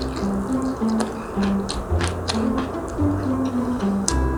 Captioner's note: ha ha